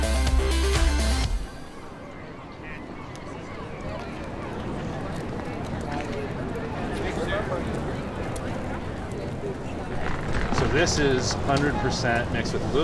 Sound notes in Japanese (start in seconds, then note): 2.3 常連客のおしゃべり